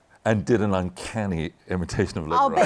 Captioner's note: laughter